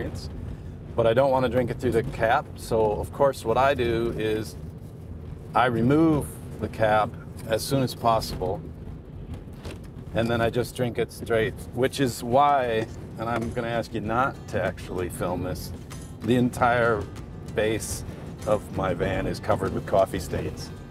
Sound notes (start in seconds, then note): none